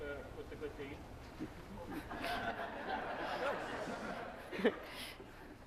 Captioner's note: laughter